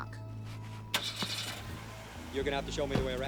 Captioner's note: car engine revs